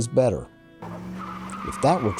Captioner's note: tires Screeching